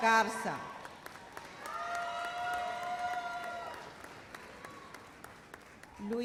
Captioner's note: audience cheers and applauds